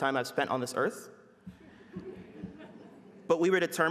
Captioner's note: laughter